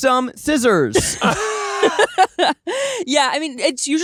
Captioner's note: laughing